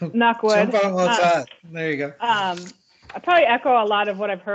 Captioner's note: laughs